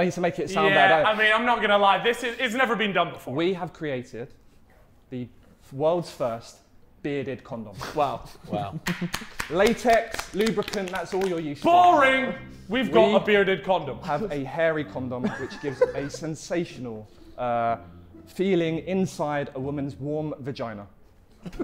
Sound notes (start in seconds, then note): 8.2 Sidemen laughing; 8.8 Sidemen applauding